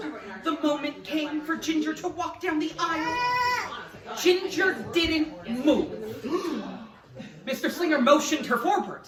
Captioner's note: gasp